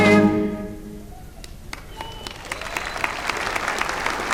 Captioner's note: applause